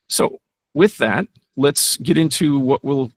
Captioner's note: none